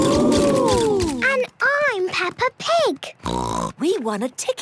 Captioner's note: snort